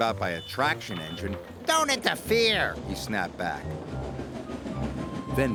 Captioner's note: toots; alarm blares